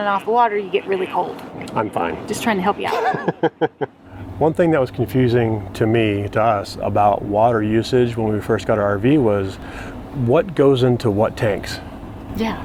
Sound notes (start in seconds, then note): 2.9 laughs